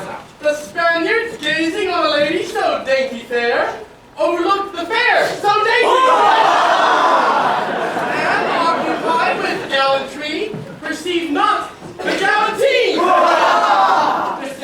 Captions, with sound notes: ... The Spaniards, gazing on a lady so dainty fair, overlooked the fare so dainty! ... [cheers] ... And, occupied with gallantry, perceived not-- --The galantine! ... Hurrah!